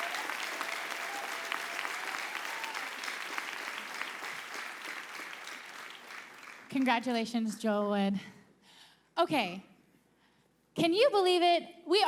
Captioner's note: applause